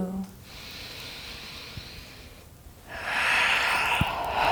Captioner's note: breathing deeply